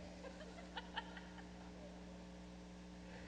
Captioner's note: laughing